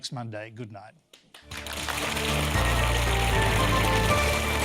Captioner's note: applause